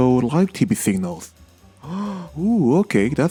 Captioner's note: gasps